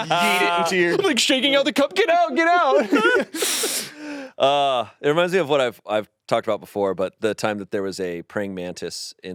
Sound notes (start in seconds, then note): 0.0 laughs; 2.7 laughs